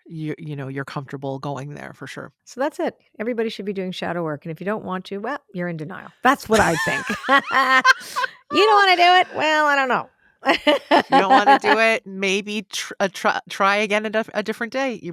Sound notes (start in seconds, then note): 6.5 both laughing; 10.4 laughs